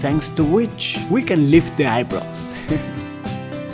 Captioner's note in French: rires